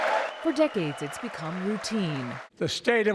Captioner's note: cheering